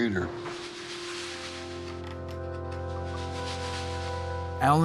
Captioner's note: sanding